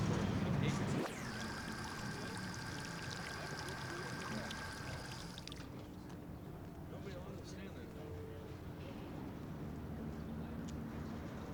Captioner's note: sound of water from solar powered fountain